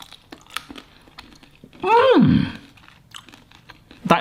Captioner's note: pear crunches